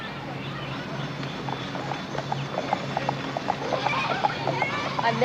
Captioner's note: hooves clopping